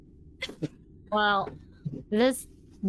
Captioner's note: laughing